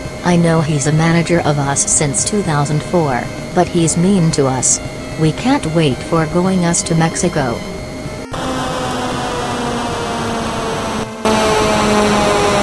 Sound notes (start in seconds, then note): 8.2 airplane flying